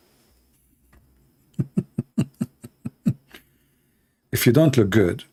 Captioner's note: Ketawa